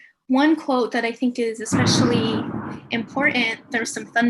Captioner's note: booming thunderstorm noise